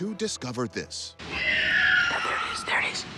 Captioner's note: screeching